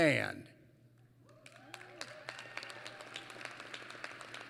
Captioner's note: applause